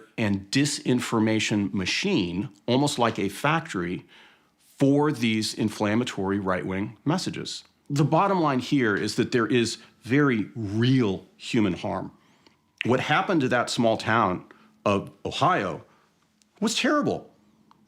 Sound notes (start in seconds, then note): none